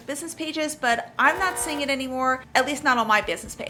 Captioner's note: alarm buzzing